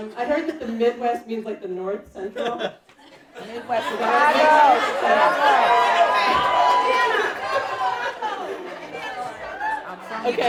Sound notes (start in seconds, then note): 5.4 cheering